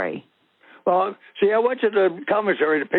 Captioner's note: over the Phone